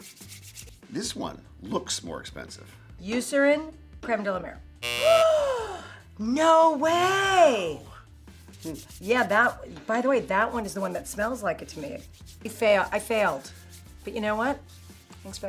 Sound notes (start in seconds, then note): 4.8 buzzer ringing; 5.3 gasps